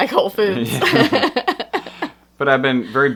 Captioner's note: laughter